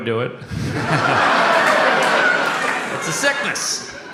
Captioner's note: audience exclaims and laughs